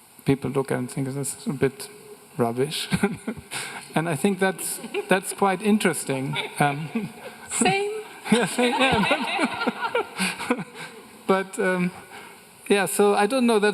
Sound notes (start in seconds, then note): 8.3 everyone laughing